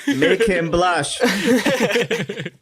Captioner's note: laughter